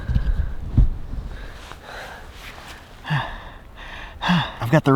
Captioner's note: breathing heavily